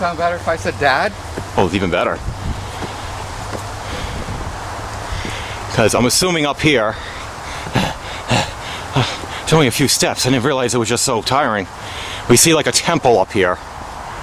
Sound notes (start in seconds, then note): 7.0 fake Panting